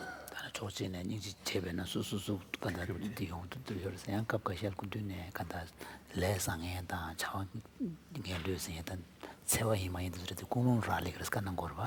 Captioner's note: foreign Language